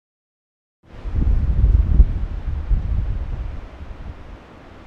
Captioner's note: wind humming